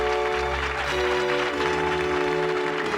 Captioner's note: whistle